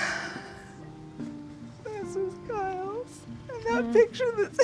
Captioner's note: crying